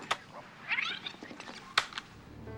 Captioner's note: recorder fast-forwarding